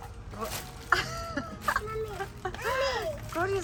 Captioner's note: laughing